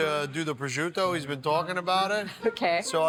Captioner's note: laughs